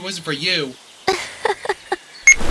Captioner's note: laughs embarrassly